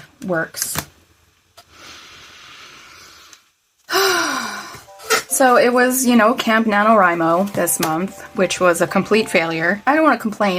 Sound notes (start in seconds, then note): 1.7 deep breath; 3.9 loud exhale